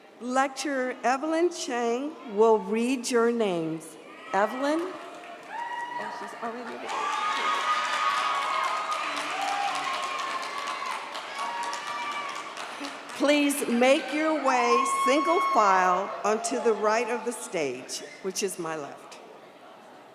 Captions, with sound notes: Lecturer Evelyn Chang will read your names. Evelyn? (audience cheers) (audience cheers) Please make your way, single file onto the right of the stage, which is my left.